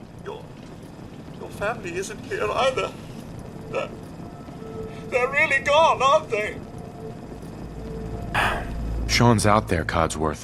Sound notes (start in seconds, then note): 8.3 sigh